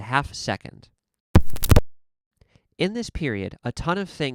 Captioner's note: thump, click, click, pop